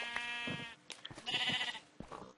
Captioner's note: baaaaaa